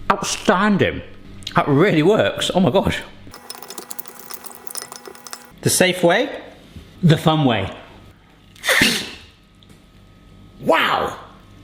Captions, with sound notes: Outstanding! That really works. Oh my gosh. (soft clinking) The safe way. The fun way. Wow!